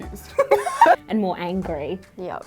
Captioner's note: laughing